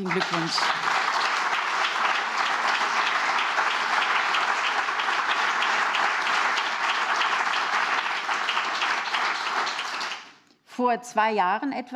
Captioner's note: applause